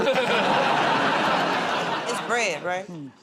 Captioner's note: laughter